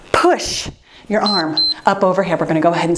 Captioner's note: timer beeps